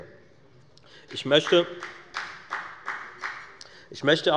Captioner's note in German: Beifall bei der FDP